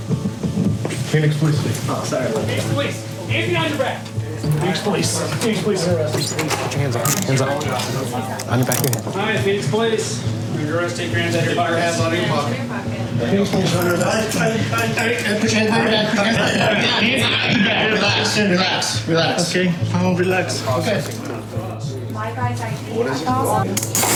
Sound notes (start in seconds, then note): 15.4 stammering